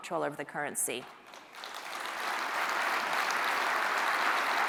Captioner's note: applause